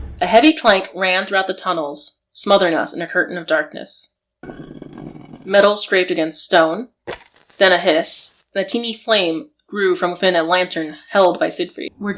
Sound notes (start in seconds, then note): 5.4 a heavy clank; 6.5 metal scraping across stone